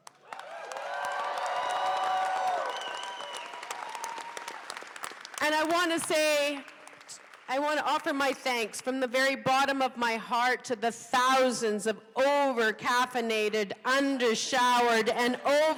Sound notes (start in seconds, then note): 4.5 applause